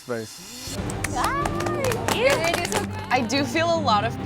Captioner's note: applauding